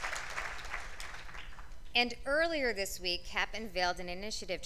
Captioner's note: applause